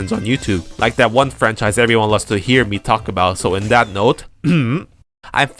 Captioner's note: cough